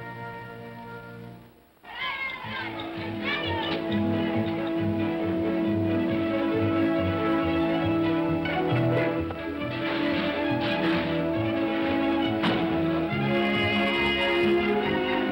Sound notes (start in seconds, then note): 1.6 whimsical music; 1.9 children's voices; 4.5 whimsical music